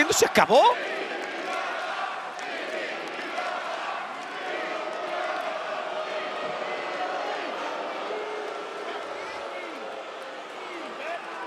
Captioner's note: applause